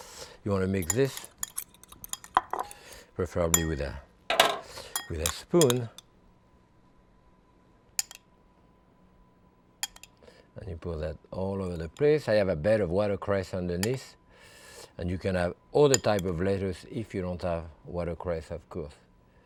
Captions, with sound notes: You wanna mix this preferably with a spoon. (spoon clinking) And you put that all over the place, I have a bed of watercress underneath and you can have all the type of lettuce if you don't have watercress, of course.